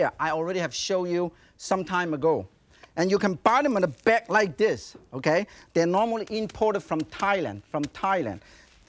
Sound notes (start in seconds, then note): 5.9 hands tap